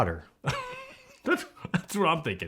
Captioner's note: laughs